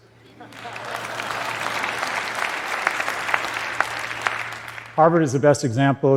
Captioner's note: applause